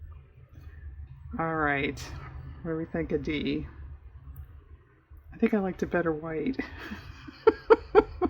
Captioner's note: laughs